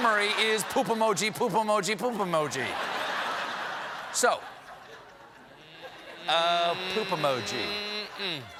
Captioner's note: laughter